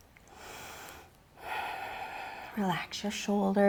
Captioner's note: deeply inhales